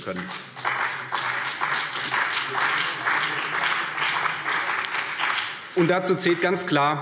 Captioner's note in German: Beifall CDU und BÜNDNIS 90/DIE GRÜNEN